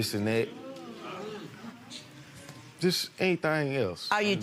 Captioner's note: audience murmurs